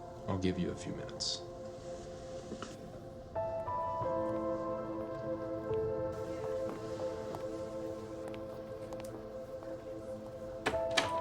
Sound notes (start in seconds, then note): 10.6 door closes